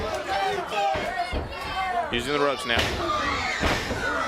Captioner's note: crowd chatter